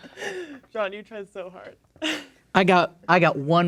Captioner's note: laughs